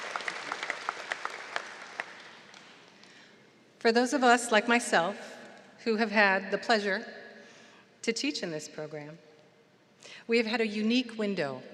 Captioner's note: applause